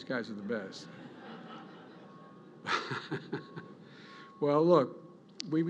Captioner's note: laughter